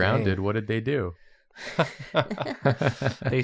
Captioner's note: laughter